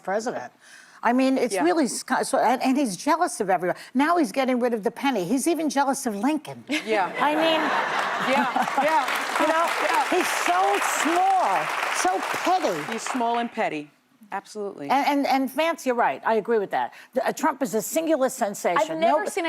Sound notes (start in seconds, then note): 12.0 applause